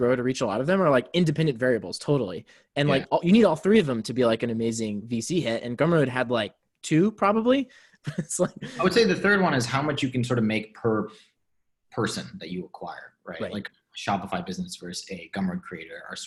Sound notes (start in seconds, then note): 7.9 laughs